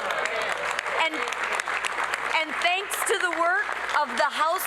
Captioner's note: applause